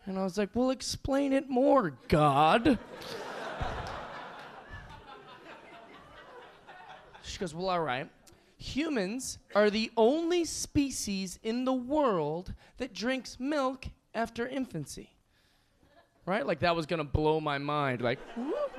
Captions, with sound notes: And I was like, "Well, explain it more, God." (audience laughing) She goes, "Well, all right, "humans are the only species in the world "that drinks milk after infancy." Like that was gonna blow my mind, like woo.